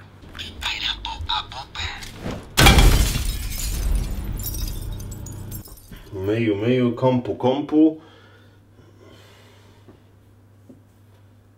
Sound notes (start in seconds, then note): 2.3 thud